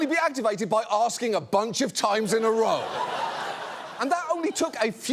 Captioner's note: audience laughs